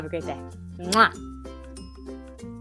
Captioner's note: smacking kiss